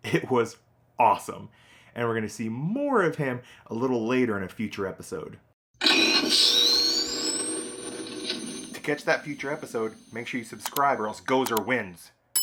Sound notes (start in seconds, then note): 5.8 Proton Pack powering up